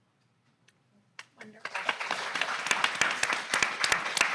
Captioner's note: audience clapping